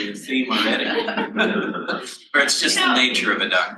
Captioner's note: panel laughs